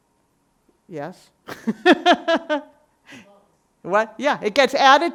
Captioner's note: laughs